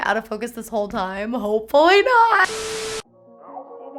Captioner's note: TV static